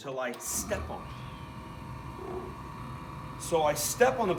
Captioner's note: machine hums